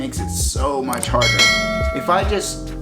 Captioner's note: ding